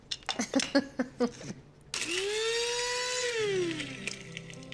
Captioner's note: chuckles; whirs